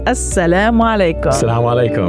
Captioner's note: speaking in Arabic